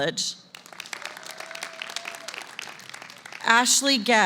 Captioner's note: applause